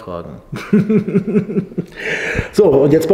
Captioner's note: laughter